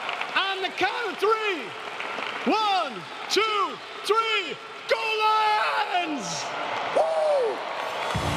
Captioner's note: applause